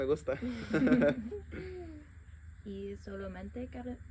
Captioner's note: laughter